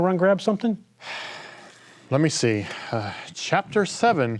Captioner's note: sighing